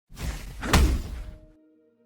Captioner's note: swoosh, Thud